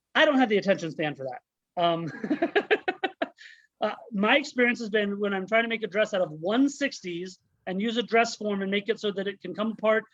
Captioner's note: laughs